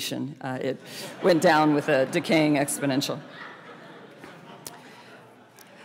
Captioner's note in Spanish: risas